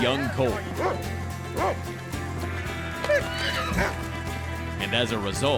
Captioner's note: dog barks, horse neighs